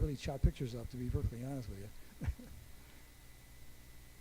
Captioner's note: chuckles